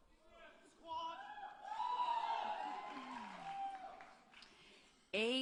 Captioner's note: applause and Cheering